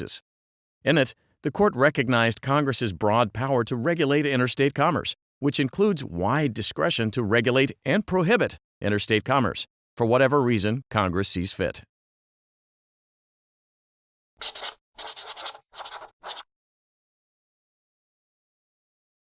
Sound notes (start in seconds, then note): 14.9 marker writing noisily on paper